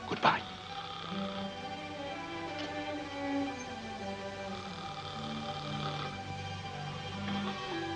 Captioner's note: ominous music; Watson snores; ominous music